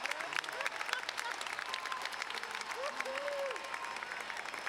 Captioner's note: laughing